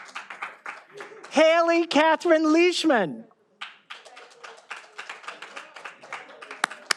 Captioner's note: all applauding